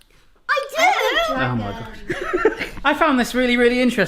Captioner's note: laughs